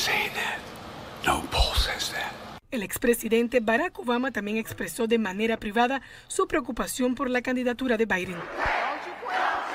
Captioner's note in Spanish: habla en i inglés